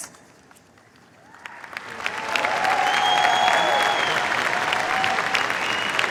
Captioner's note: cheers, applause